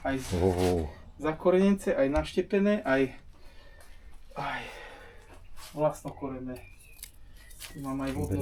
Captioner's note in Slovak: smrkanie